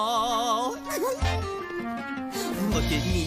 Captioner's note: giggles